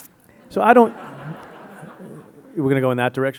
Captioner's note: audience laughing